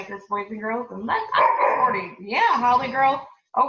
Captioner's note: speaker drowned out by barking